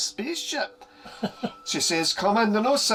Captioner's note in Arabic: يضحك